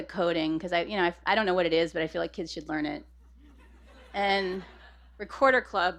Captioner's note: laughter